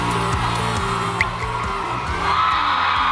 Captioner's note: in disbelief